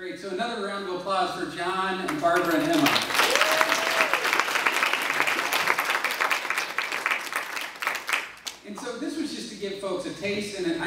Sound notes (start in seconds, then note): 2.6 cheers and applause